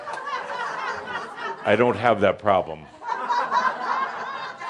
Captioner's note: laughter; more laughter